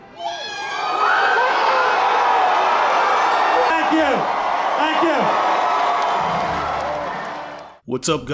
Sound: cheers

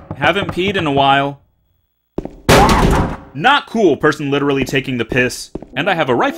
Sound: sudden pounding noise

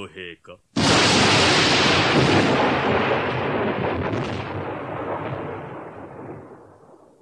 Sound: SFX: thunder

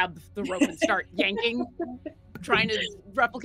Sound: laughing

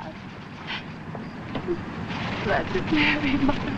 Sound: whimpers

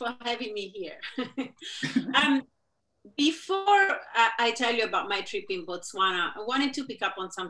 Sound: chuckling

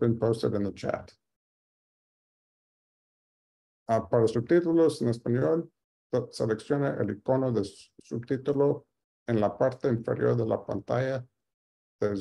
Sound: speaking Spanish

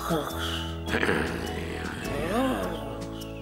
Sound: clears throat

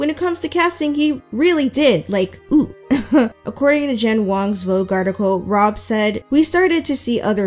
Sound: laughs

